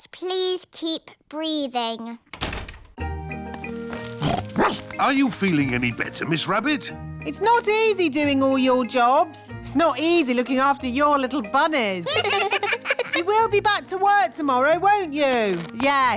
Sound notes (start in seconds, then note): 2.3 door shuts; 4.0 snorts; 4.4 barks; 12.0 children laugh